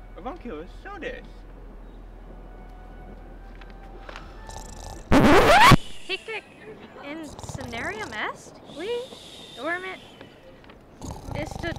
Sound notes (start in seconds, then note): 4.4 snoring; 5.0 record Scratch